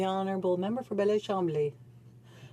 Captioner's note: speaking French